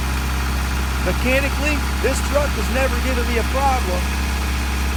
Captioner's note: engine running